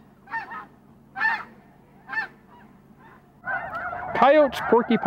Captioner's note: birds squawking